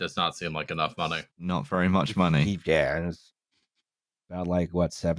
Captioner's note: mumbles frustrated nonsense